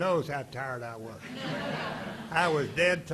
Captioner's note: audience laughing